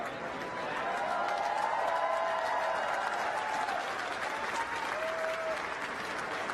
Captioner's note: crowd cheering and applauding